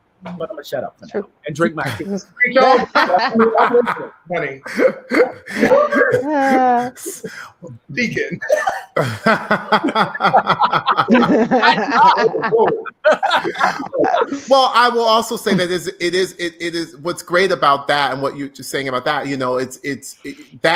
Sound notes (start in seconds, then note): 2.8 laughing loudly; 8.9 laughs; 9.6 group laughing loudly